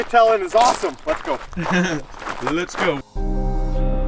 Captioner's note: laughs